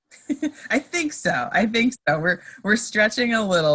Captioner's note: laughs